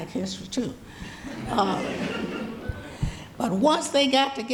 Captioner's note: audience laughing